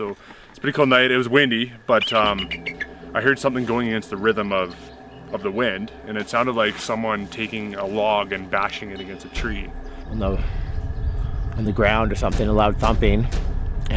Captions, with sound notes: So, it was a pretty cold night, it was windy, but... (eagle shrieks) I heard something going into the rhythm of the wind and it sounded like someone taking a log and bashing it against a tree. - On the ground, or something, a loud thumping,